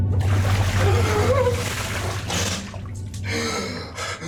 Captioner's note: water splashing; Aiden gasping